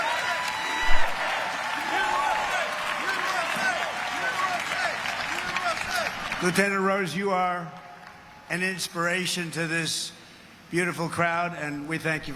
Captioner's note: crowd cheering